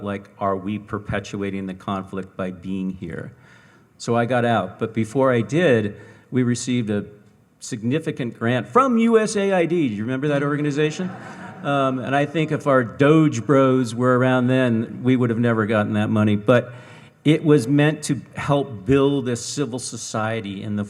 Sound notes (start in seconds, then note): 10.8 audience laughing